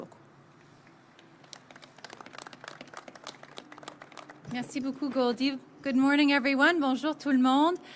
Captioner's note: applause